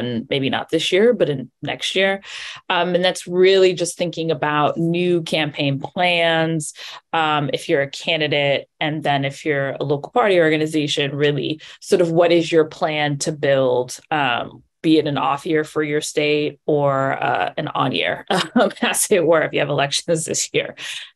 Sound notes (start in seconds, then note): 17.8 laughs